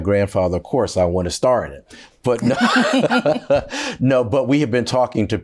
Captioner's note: laughs